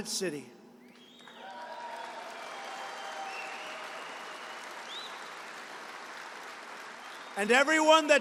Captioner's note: applause